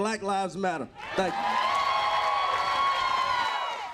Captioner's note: crowd cheers and applauds loudly